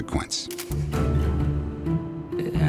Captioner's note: camera shutter